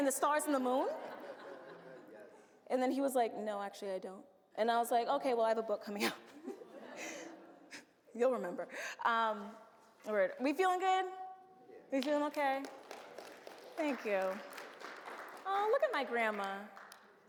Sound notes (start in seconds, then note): 6.5 audience laughs; 12.4 audience applauds